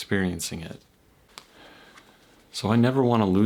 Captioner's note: exhales